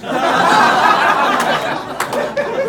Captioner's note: laughs